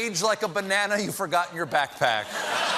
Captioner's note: laughter